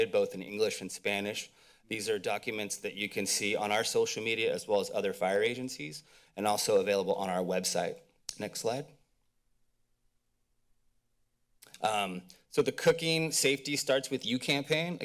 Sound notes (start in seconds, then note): 9.2 silence